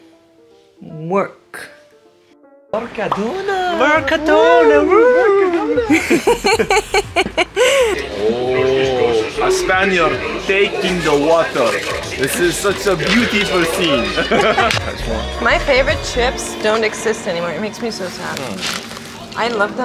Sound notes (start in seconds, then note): 5.1 all laugh; 14.8 laughs